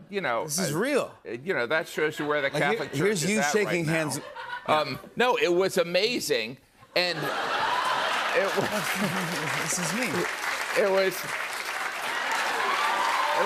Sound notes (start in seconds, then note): 7.2 laughter and applause; 11.5 cheers and applause